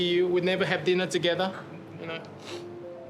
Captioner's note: sniffs